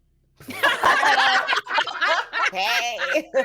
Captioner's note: people laughing